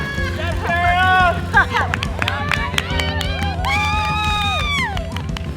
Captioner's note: cheering